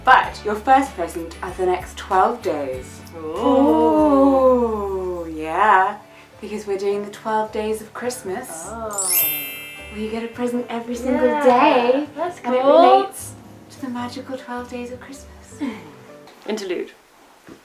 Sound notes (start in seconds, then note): 8.8 sparkly sound effect